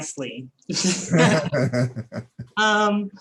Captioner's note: laughs